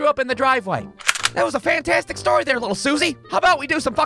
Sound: cocks the gun

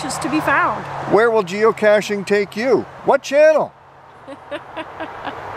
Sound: chuckles

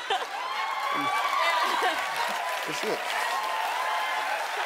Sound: audience cheering

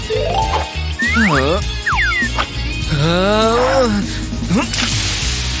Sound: moaning

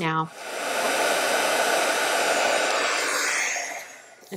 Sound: machine whirring

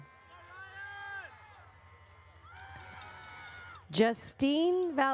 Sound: audience cheers

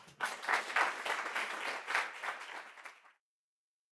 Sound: crowd applauds

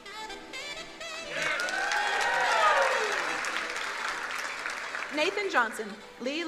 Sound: upbeat music; crowd cheering and applauding

